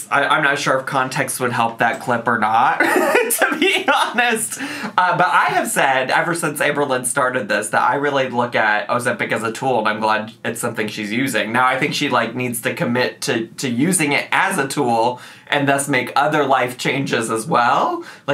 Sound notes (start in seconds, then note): 2.8 laughs